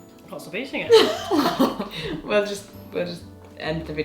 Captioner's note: laughs